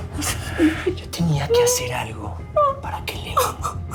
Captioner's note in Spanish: Sollozos